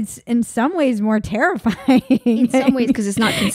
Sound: laughing

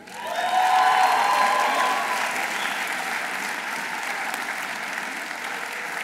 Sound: audience applauding; audience cheering

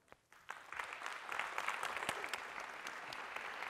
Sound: applause

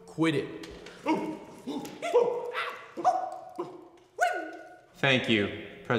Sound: ape noises

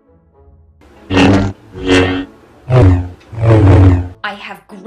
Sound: beam rod sounds

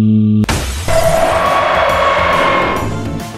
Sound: glass shatter SFX; Gryffyn jumpscare SFX

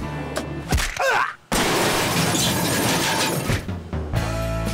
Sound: grunt; crash; upbeat music

